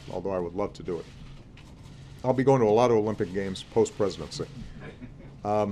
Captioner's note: laughter